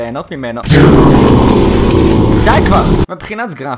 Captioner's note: doooooooooooooom